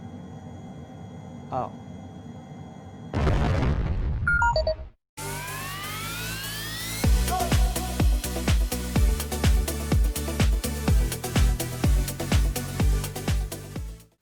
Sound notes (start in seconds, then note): 3.1 crash sound; 4.2 game beep sounds